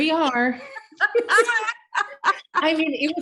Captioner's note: laughing